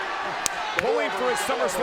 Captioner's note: crowd clamoring; hands clapping